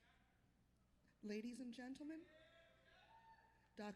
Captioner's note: cheers and applause